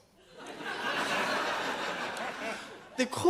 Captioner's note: audience laughs